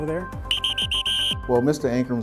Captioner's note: whistle blows